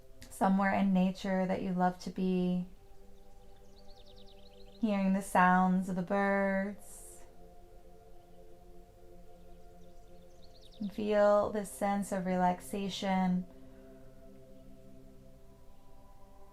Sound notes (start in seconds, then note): 0.0 serene music; 3.0 birds chirping; 7.1 relaxing music; 13.9 gentle music